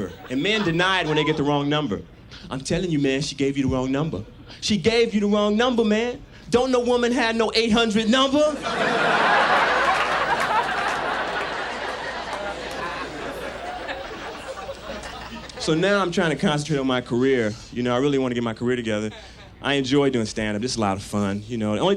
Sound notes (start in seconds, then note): 8.6 audience laughs